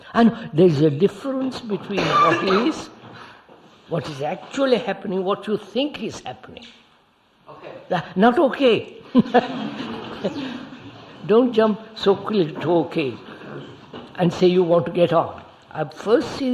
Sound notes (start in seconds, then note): 9.0 laughter